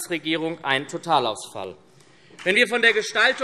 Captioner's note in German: Beifall SPD und Freie Demokraten